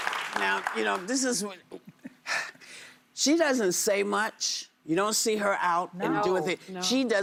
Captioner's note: applause